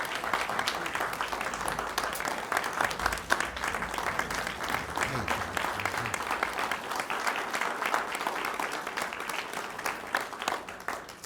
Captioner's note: applause